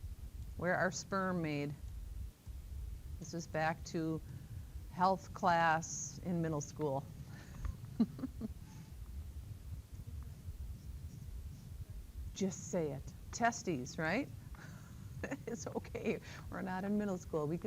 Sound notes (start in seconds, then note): 7.9 laughter; 15.2 laughter